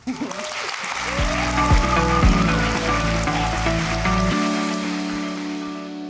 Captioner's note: applause; upbeat music